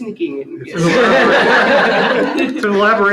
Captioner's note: laughter